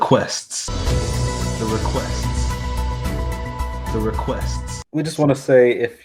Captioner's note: voice echoes